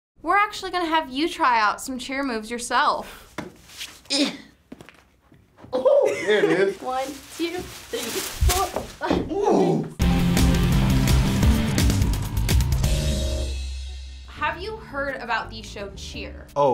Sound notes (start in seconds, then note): 4.1 grunts; 10.0 rock intro